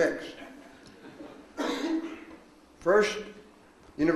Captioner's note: man laughs